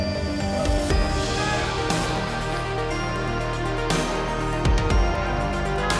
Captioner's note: audience applauding and cheering